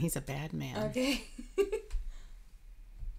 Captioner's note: laughing